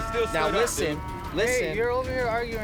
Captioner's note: cows mooing